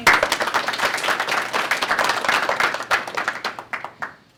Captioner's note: applause